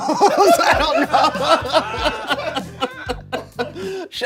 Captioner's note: everyone laughs